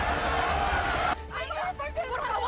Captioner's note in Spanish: Algarabía en el hipódromo